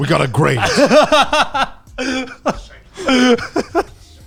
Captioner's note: all laughing